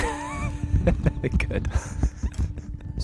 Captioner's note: laughing